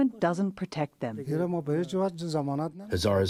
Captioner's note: through translator